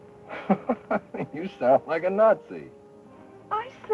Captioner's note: chuckles